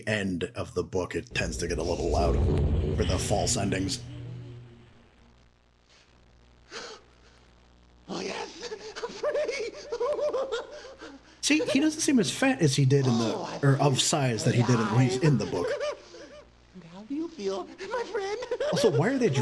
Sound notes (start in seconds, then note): 8.1 giggle